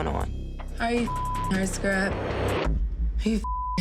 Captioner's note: beep; beep